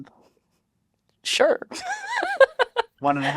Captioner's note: laughs